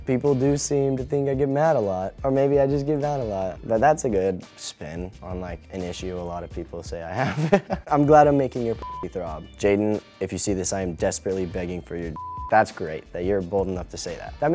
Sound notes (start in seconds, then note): 7.2 laughs; 8.8 beep; 12.1 beep